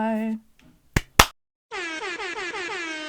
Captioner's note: airhorn